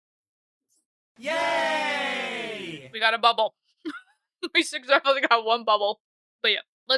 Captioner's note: crowd cheer sfx: Yay!